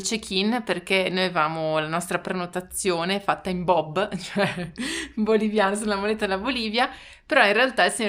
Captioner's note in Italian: risate